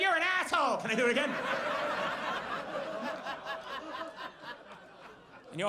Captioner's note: audience laughs